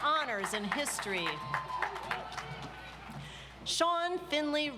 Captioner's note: audience applauds